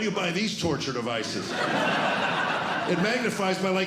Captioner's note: laughter